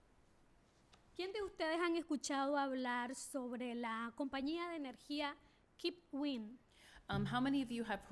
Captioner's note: speaking spanish